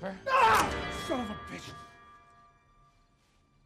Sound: screaming

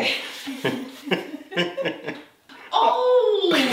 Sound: both laughing

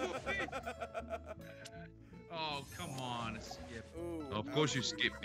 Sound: laugh

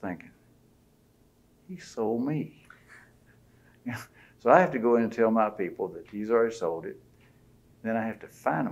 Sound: laughter

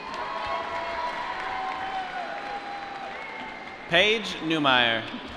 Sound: applause

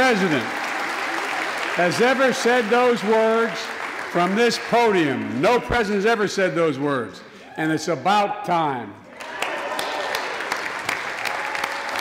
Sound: applause

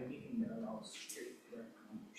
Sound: speaking faintly

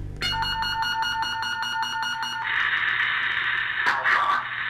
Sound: electronic beeping

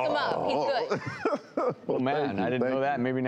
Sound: Officer Byrd laughing

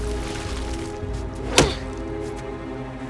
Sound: groaning

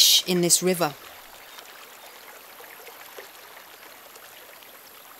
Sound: water trickling

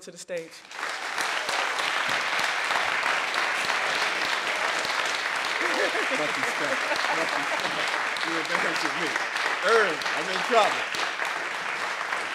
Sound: applause

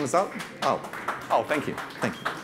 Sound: audience claps

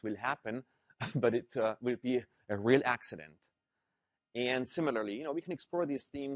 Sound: laugh

